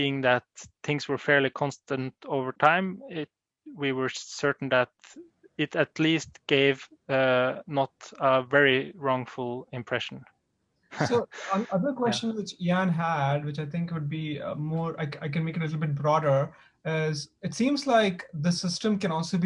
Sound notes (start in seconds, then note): 10.9 laughter